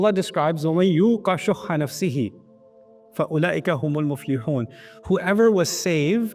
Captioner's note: Arabic